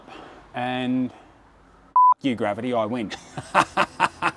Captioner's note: beep